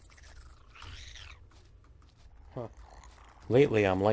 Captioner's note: plant monster chirping